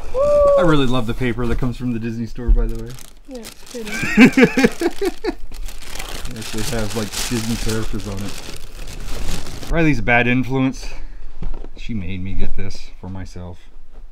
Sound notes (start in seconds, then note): 3.8 laughing, rustling